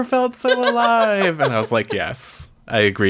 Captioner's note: laughs